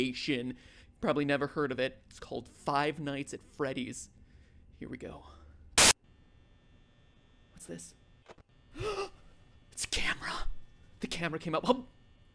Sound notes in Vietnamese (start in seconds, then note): 5.8 nhiễu; 8.7 giật mình